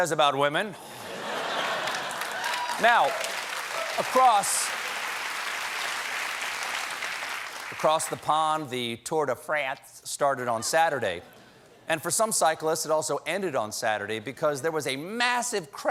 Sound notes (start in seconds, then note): 3.8 applause; 3.8 laughter